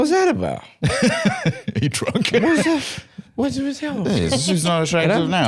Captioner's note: laughs; slurring